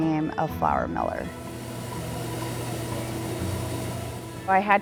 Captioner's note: mill buzzing